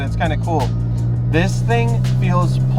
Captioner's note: engine roaring